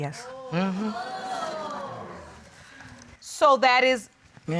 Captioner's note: audience exclaims